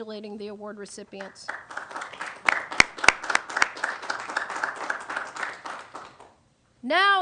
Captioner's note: applause